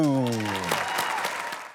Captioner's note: audience applaud and cheer